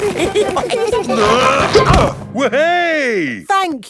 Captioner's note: all giggling; grunting